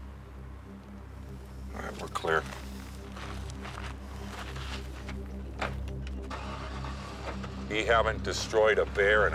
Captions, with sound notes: All right, we're clear. (engine rumbling) We haven't destroyed a bear